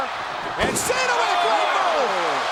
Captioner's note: body thudding